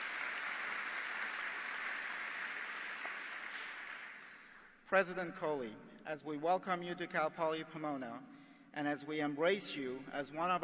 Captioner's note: applause